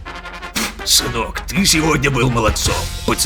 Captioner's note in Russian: выплевывает сигару